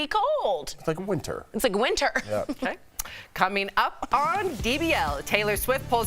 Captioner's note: laughter